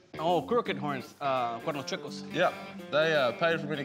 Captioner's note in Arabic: يتحدث الإسبانية